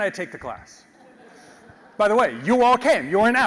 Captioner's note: laugh